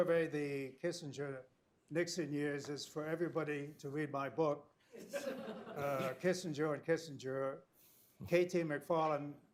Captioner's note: laughter